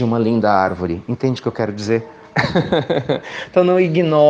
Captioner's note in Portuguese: risos